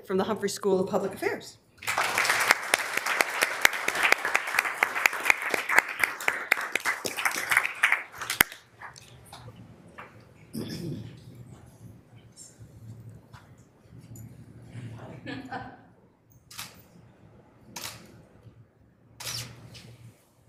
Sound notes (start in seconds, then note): 1.8 members applauding; 15.0 laughs; 16.0 camera clicking